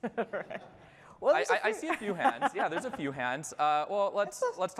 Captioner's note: laughter